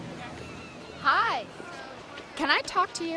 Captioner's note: chatter